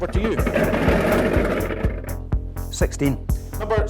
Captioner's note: balls rattling